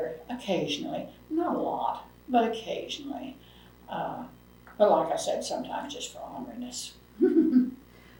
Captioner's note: laughs